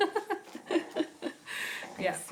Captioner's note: laugh